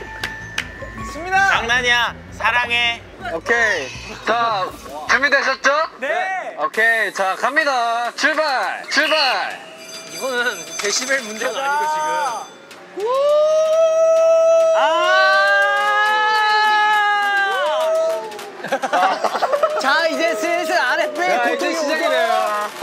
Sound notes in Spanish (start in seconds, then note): 13.0 Sirena emocionada ENCENDIDA